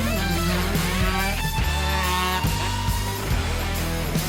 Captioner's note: engine revving